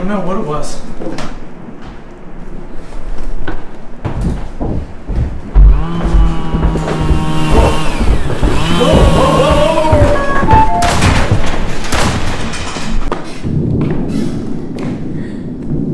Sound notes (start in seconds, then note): 6.8 chainsaw revving; 10.9 shotgun blasting